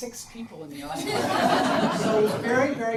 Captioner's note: audience laughs